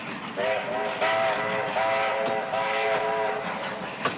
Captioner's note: train whistling